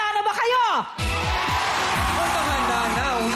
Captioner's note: audience cheering